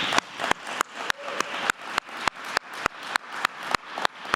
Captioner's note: applause